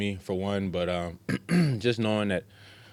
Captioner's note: clears throat